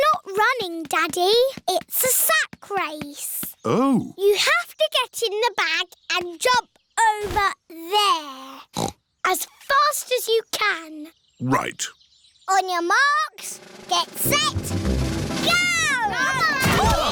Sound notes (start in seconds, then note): 8.7 snorts